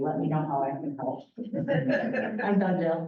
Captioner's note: laughter